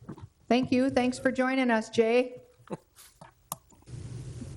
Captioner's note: laughs